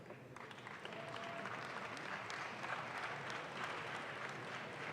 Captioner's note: audience claps